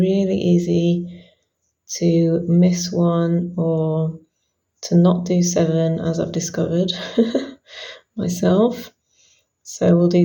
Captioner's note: chuckles